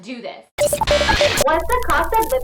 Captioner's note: static noise